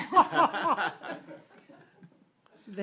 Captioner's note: laughter